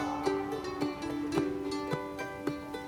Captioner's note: his voice echoes out